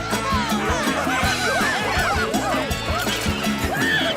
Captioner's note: enthusiastic shouts; chuckles